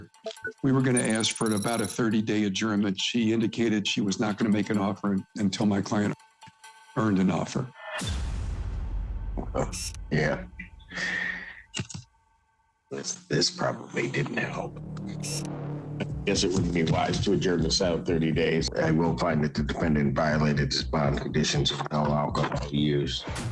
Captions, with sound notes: We were gonna ask for about a 30-day adjournment. She indicated she was not gonna make an offer until my client earned an offer. - [chuckling] Well, yeah. I will find that the defendant violated his bond conditions of no alcohol use.